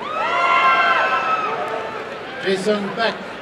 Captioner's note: applause and cheering